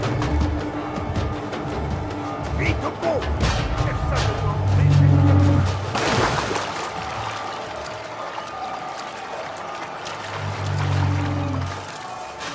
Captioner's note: applause